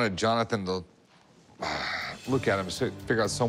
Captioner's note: sighs